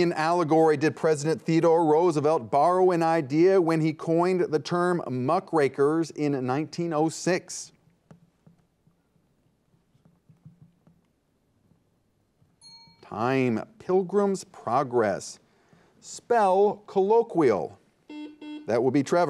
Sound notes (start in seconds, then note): 12.6 timer dings; 18.1 buzzer beeps